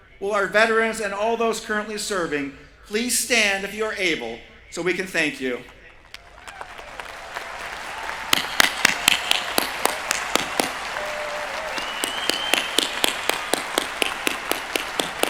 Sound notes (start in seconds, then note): 6.9 applause